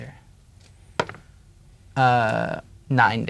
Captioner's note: dice rolling